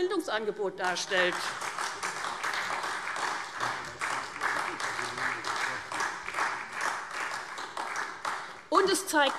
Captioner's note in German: Beifall SPD und Freie Demokraten